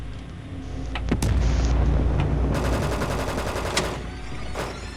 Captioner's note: gunshots blasting